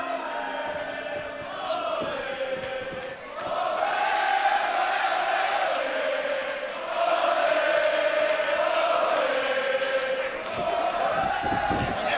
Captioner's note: crowd cheering